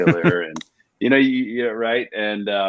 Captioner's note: laughs